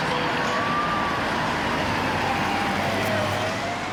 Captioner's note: siren wailing